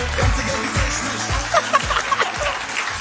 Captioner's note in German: Gelächter